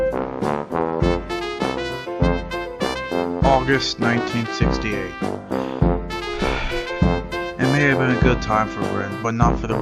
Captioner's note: sighs